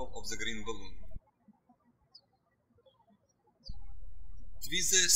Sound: birds chirping

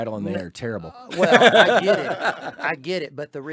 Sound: laughing heartily

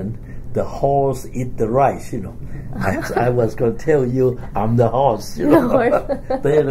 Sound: laughs; both laugh

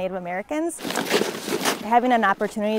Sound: snow Crunching Sounds

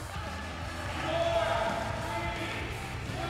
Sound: crowd

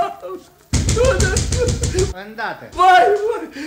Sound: knocking loudly on the door; loud knocking at the door

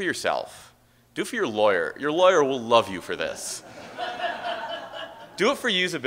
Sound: audience Laughter

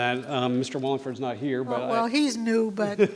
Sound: laughs

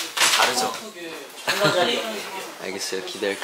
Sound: laughing

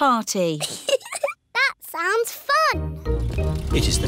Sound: giggles

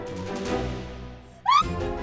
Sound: screams

